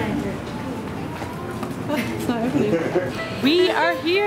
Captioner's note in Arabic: ضحك